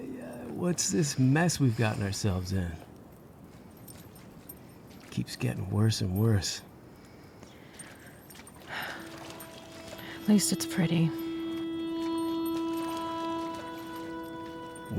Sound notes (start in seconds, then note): 7.8 water sloshing; 8.6 Amy heavily sighs; 12.1 somber tonal music